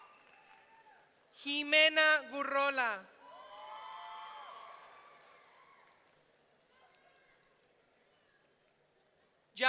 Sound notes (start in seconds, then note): 3.2 audience cheering